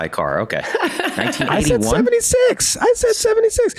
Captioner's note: Meg laughs